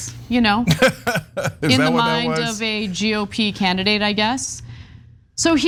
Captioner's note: laugh